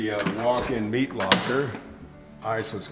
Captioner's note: door unlocking